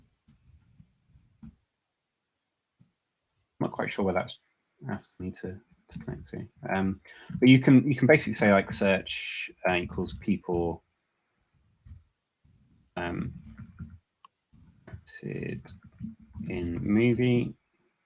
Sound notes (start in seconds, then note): none